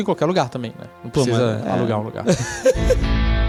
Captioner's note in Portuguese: risos